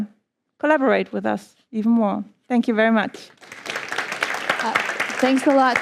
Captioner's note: applause